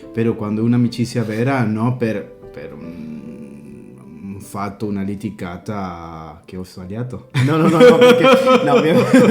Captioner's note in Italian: risate